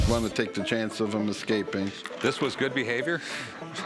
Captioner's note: laughter